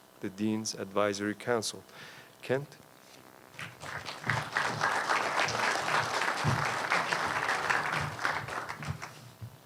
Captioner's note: applause